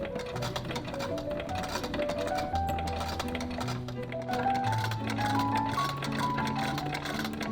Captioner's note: antique machine ASMR; gentle music